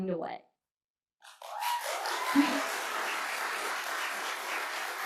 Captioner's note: applause